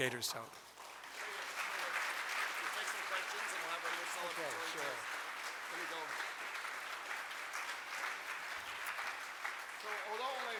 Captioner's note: audience applause